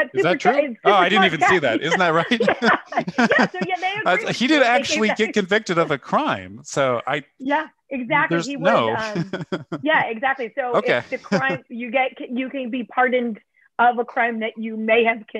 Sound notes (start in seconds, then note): 0.9 laughter